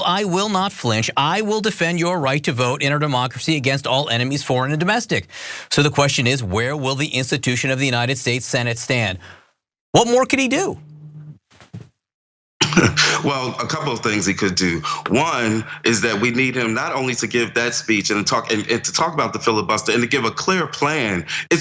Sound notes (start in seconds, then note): 12.6 laugh